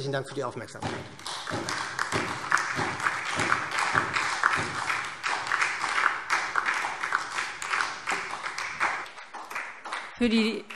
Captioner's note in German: Beifall SPD und DIE LINKE